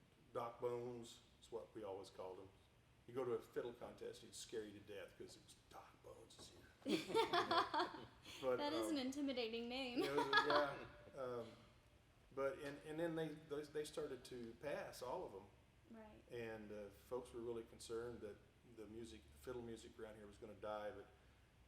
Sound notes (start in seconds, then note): 6.9 everyone laughing; 9.9 laughing